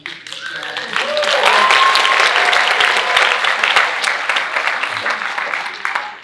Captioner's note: audience cheering and applauding